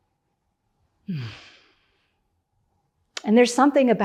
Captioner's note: moans